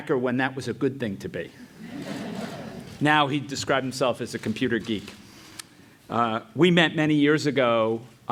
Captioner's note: laugh